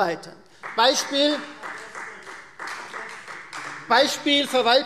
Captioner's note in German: Beifall Freie Demokraten